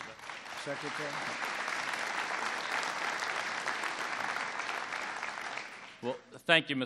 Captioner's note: applause